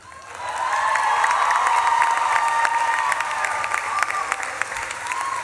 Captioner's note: audience claps and cheers